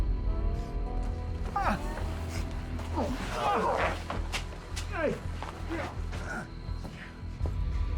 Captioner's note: scottish accent; geraldo continues groaning